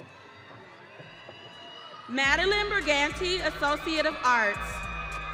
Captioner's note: audience cheering